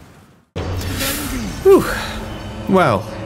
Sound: sharp inhale

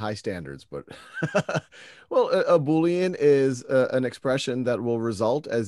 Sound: laughs

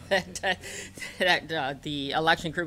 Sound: laughter

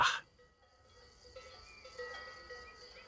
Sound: cowbells ring

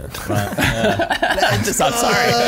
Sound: laughing

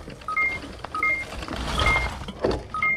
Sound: beeping

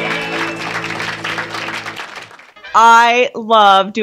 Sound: audience applauds

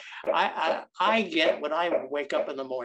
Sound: knocking continues

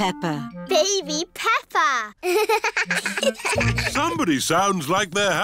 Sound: both laugh

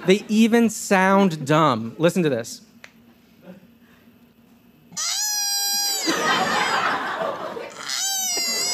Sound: ARCHIVE CLIP: koala crying; laughter

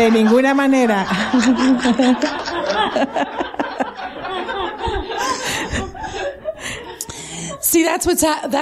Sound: laughter

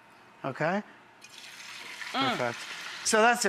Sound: skillet sizzles

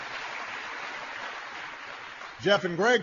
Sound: applause

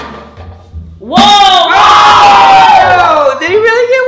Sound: cheering screams

